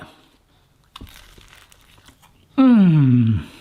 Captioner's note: pastry crunches